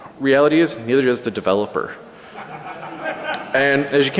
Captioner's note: laughter